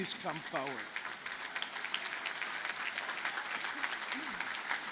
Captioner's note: audience applauding